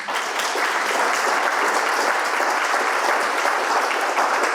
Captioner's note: audience applauds